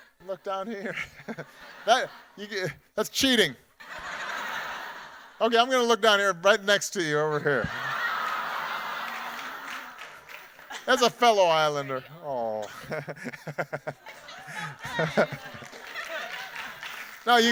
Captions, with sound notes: Look down here. (chuckles) That's cheating! (audience laughing) Okay, I'm gonna look down here right next to you over here. (audience laughing and applauding) That's a fellow islander. Aw. (laughs) - I feel so good! (audience applauding)